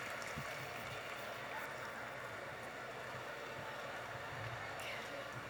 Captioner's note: audience chattering